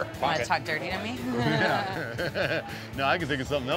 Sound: chuckling

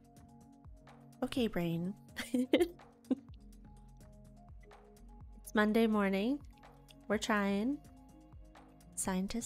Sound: giggles

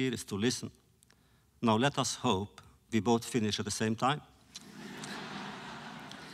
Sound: laughter

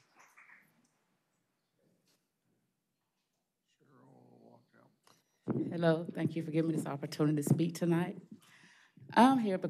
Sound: applause

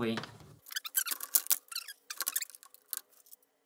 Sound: fast forward talking and noises

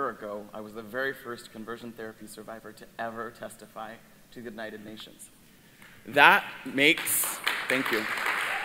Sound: applause

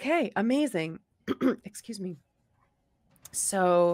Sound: clears throat

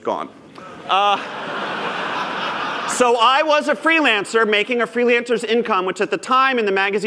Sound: laughter

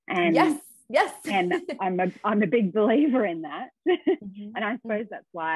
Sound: laughs

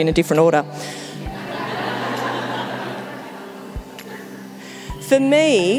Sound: audience laughing

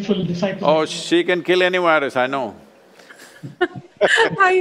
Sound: laughter

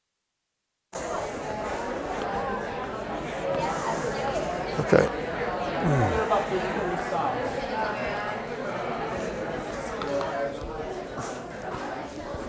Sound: chatter

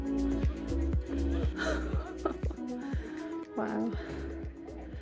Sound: laughing

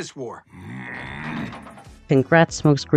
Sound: growls

